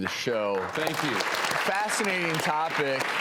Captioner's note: applause